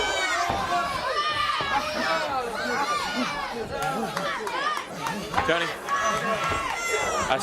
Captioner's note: crowd chatter